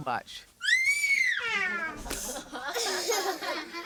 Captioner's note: screams